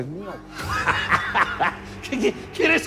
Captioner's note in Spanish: Carcajadas